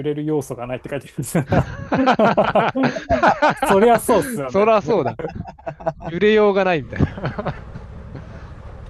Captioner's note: laughs